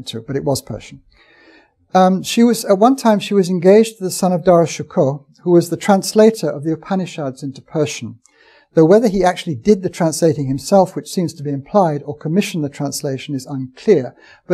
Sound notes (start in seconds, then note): none